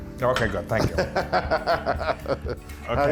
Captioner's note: laugh